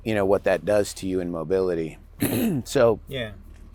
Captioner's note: clears throat